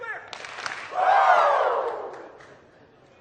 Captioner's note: hands clapping